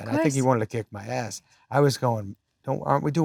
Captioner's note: laughs